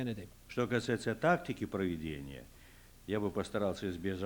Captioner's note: non-english speech